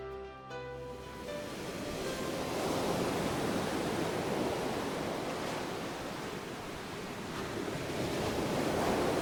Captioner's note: waves/wind noises